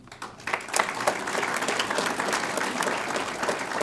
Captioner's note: audience applauds